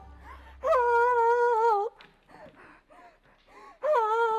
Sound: pants

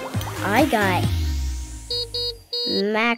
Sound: beeping

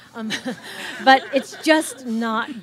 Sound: audience laughs

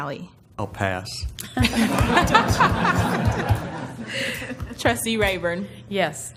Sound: laugh

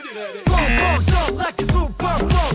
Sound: buzzer rings; sings in Korean

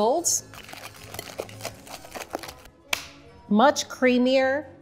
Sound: whisk mixing

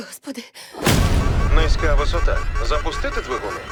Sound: alarm wailing

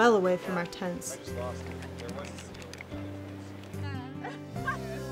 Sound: indistinct chatter

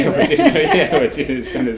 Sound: both laugh

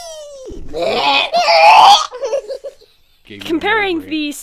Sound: puking sounds

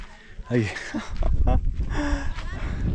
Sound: laughs

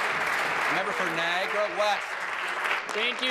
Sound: applause

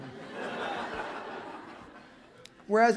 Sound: laughter

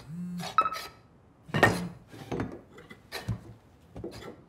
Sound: cell phone buzzes

